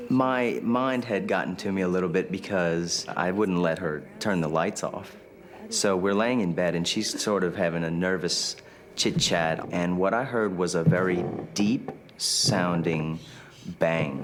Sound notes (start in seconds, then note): none